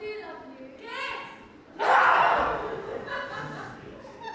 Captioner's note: screams